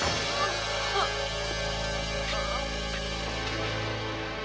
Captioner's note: Pantera grunting; sad music